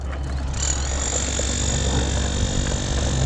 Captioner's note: power tool noise